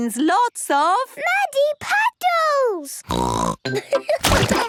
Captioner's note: snorting; laughter